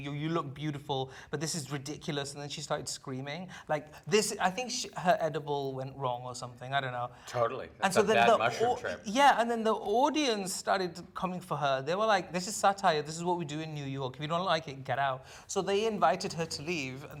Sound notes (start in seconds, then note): none